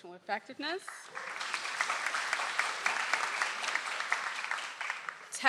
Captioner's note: audience applauds